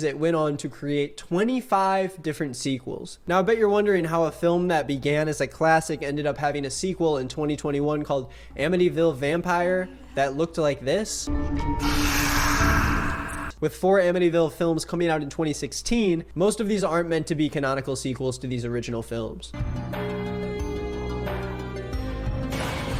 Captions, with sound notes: it went on to create 25 different sequels. Now I bet you're wondering how a film that began as a classic ended up having a sequel in 2021 called "Amityville Vampire" that looked like this. (dramatic music) (woman hisses) With four "Amityville" films coming out in 2016, most of these aren't meant to be canonical sequels to these original films. (suspenseful music)